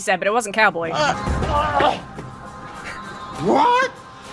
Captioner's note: patron shouts